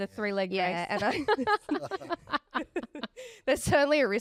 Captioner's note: laugh